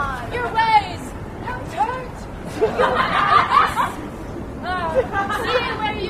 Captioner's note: laughter